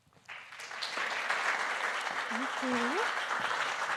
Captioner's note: audience applauding